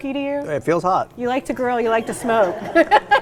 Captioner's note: laughs